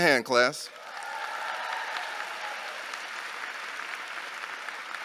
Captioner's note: audience cheering